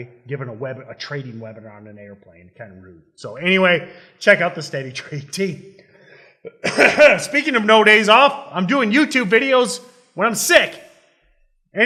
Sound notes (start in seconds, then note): 6.4 coughing